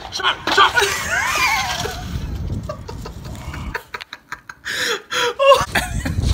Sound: laughing

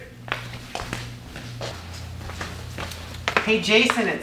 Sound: footsteps

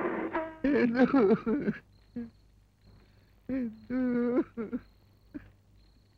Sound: sobbing

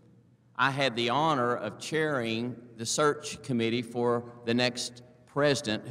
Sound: none

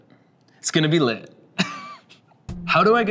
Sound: laughs

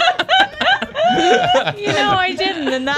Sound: laughter

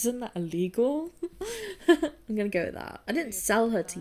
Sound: laughs

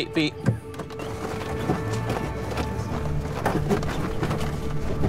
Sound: tires rumbling

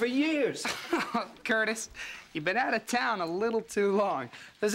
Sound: laughs

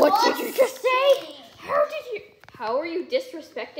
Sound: angry enchanted noises

